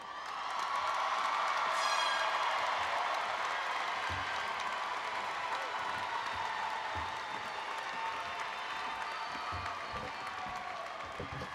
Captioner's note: applause and Cheering